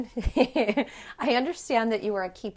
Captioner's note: laughter